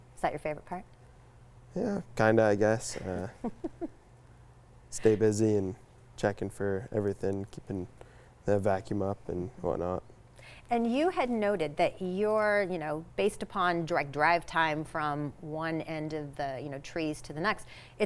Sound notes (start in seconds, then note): 3.0 laughing